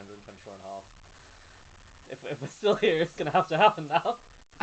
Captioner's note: laughs